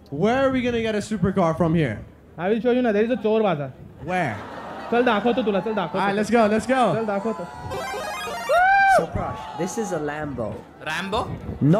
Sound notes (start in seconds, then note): 3.2 non-english speech; 5.2 non-english speech; 7.1 non-english speech; 7.7 video game sound effect